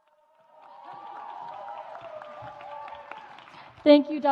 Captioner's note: audience applauds